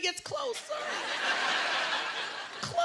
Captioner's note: laughter